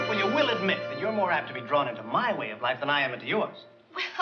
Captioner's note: none